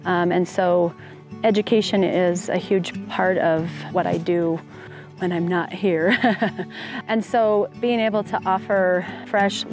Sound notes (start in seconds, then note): 6.1 laughs